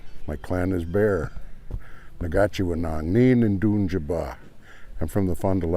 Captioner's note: speaking ojibwe